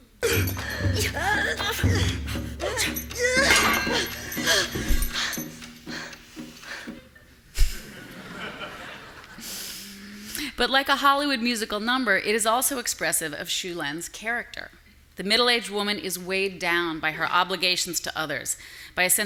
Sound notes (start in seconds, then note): 0.0 drums beating; 0.2 grunting; 3.5 metal clinking; 4.4 heavy panting; 7.8 audience laughing